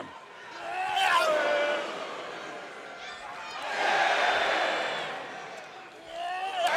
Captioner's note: crowd chants "Boo/Yay"